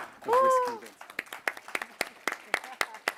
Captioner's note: applause